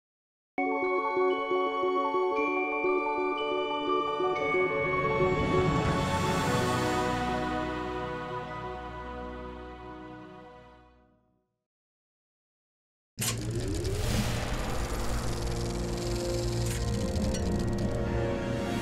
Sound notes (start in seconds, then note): 0.5 mysterious music; 13.2 movie reel spinning; 15.6 suspenseful music